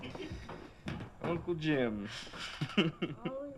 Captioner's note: laughs